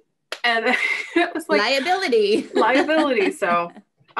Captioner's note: laughs